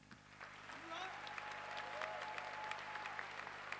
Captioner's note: applause